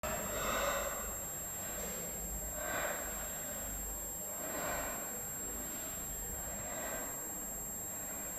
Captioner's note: wheezing